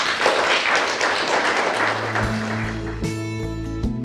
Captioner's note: audience applause